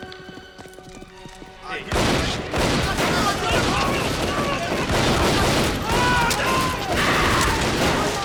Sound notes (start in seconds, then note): 1.9 gunfire clattering; 2.9 people screaming